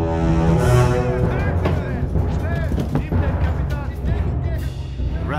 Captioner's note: soldiers shouting in German